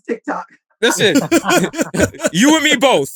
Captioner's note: laughter